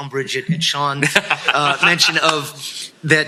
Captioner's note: laughs